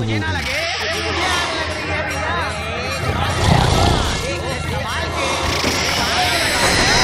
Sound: snoring

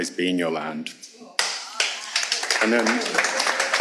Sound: audience applauding

